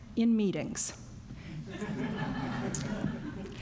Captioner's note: laughter